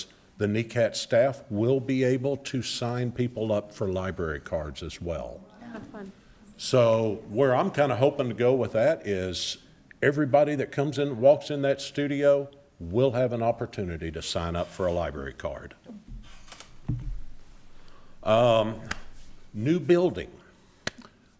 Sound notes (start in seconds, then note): 5.4 attendees reacting positively; 20.8 claps hands